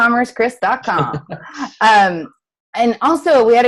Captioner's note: chuckles